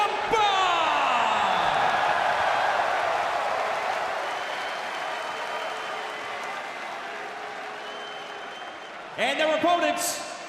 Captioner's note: crowd cheering